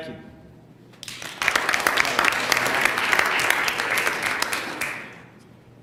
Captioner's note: applause